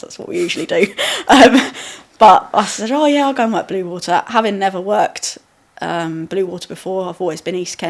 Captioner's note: laughing